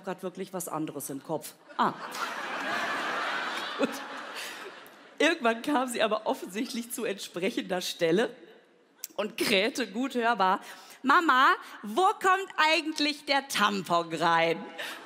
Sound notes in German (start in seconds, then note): 2.6 Lachen; 3.7 lacht